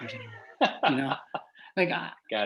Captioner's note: laughs